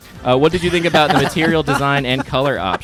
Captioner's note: laughing